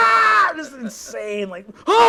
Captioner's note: yelling